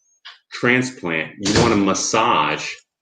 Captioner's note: door closes